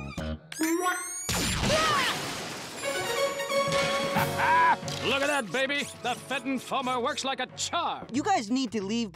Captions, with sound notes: [shrieking] Haha. Look at that baby. The Fenton Foamer works like a charm. You guys need to leave